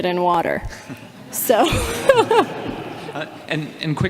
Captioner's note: all laughing